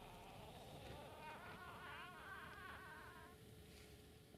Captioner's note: pixie laughter in the distance